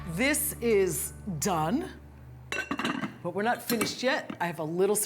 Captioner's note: closes lid